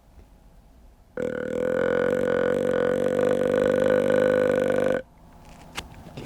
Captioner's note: grunts at buck